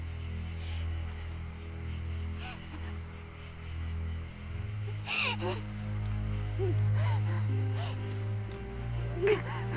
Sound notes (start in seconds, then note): 2.8 crying; 8.3 dramatic piano music